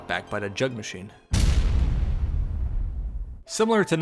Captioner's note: impact sound effect